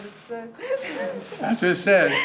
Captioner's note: laughter